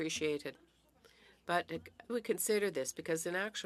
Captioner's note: speaking French